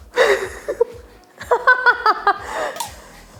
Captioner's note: laughs